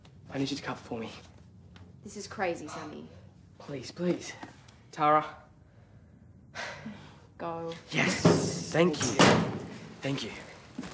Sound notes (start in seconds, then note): 6.5 exhales